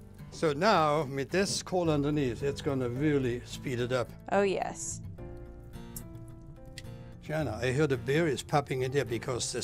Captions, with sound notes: So now with this coal underneath, it's going to really speed it up. -Oh, yes. [popping noises] -Shana, I hear the berries popping in there because there's